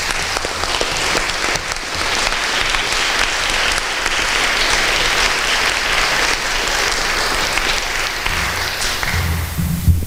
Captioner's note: applause